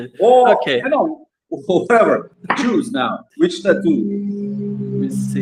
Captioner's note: laughs